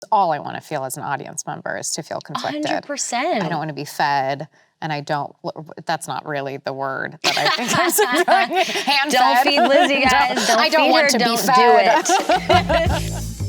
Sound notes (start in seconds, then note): 7.2 both laughing